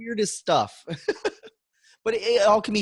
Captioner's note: laughs